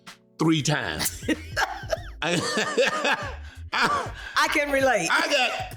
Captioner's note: laughing